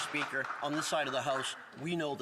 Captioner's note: some Applause